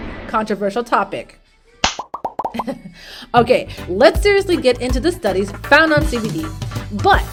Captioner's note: slaps forehead